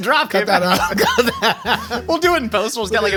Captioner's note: Jake laughs